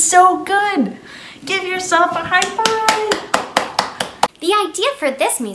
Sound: claps

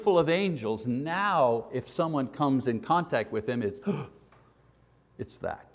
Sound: gasp

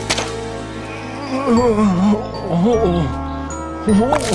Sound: grunts and groans; groaning

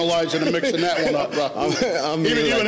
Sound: laughing

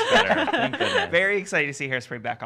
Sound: laugh

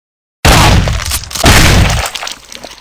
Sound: pow, splat; pow

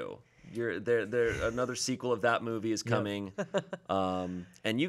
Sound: stammering; chuckling

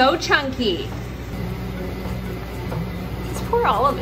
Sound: ice cream maker churns

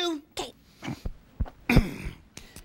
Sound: sighs

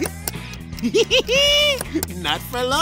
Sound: giggling

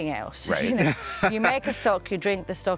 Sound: laughing

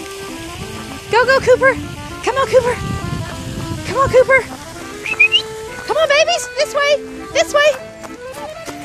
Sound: whistling

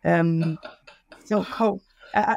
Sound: laughs

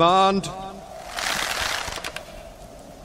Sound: crossbows creak

